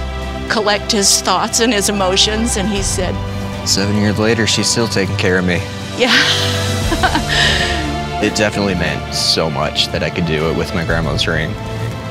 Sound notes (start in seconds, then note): 10.6 laughs